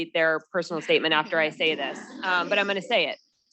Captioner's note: students laughing